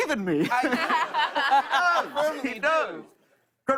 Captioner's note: laughter